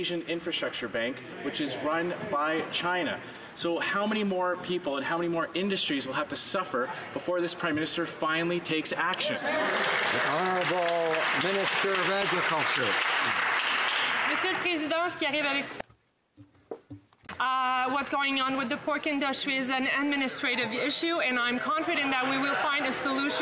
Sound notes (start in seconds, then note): 12.1 some Applause